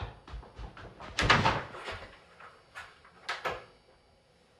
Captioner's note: quick footsteps